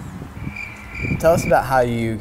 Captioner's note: crickets chirping